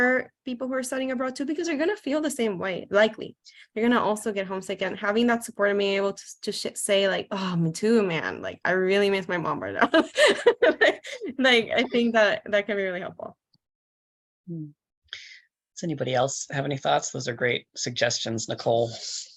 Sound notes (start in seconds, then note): 9.8 laughs